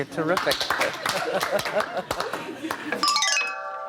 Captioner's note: applause